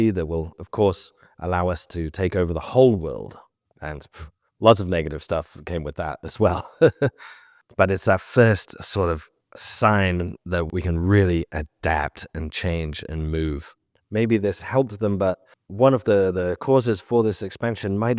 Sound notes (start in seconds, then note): 6.4 laughs